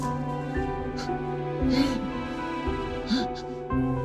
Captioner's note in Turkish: Mehmet Ali inliyor